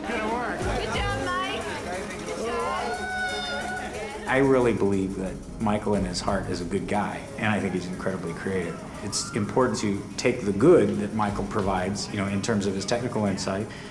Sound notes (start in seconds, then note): 0.5 scattered cheers